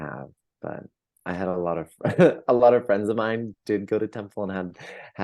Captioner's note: laughs